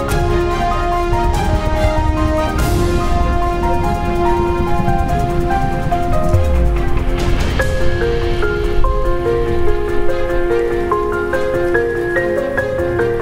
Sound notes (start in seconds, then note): 3.6 light music; 3.6 rain pattering